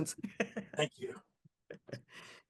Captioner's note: laughs